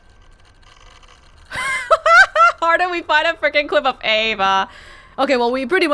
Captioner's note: chuckles